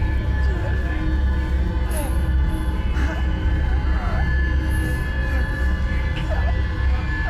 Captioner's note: muffled 1920's music; soft intense music; Clint groaning softly